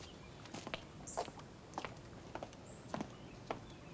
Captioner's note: heels clicking